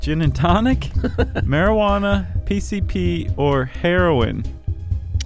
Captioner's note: laughs